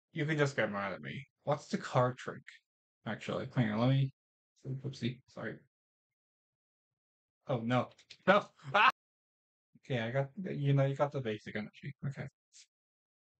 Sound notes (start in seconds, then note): 8.6 various sounds of distress